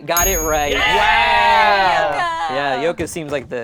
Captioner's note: group cheers